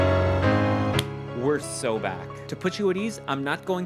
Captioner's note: glove smacks